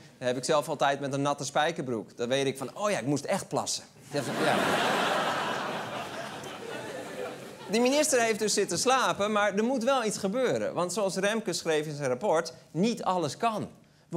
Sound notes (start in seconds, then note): 4.1 laughter